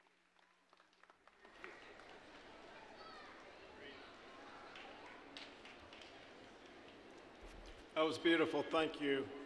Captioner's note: general chatter